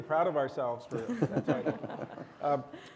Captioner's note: panelists laugh